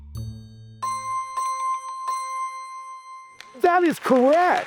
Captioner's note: contemplative music; guesses dinging